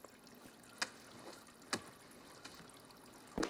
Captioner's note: urine sloshing